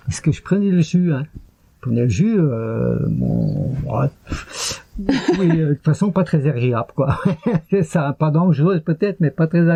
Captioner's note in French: rires